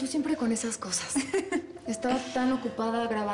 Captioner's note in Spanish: Risas